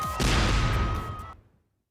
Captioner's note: cheering